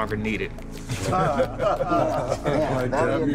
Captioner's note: laughing